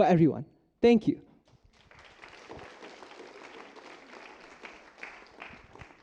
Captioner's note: applause